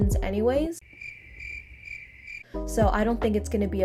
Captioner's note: intense crickets